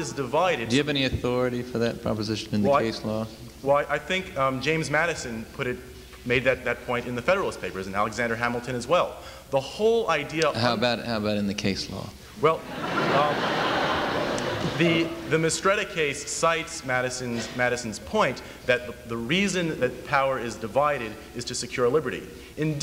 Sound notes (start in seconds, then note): 12.6 laughter